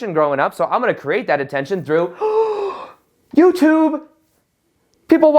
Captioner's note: gasps